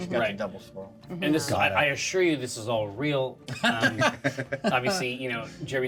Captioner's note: laughter